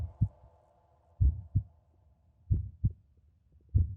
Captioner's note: heart beating